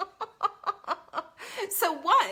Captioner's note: laughs